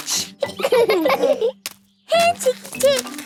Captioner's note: laughing